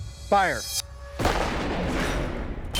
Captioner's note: gunshot